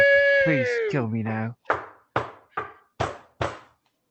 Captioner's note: knock knock knock